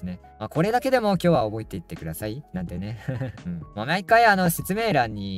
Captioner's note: laughs